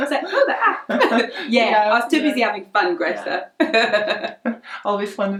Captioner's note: laughs